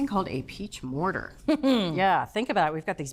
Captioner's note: chuckles